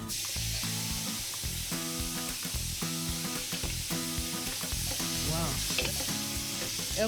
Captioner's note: sizzles; speaking greek